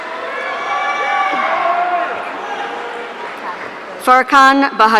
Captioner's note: audience cheering